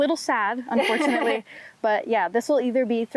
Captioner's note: laughs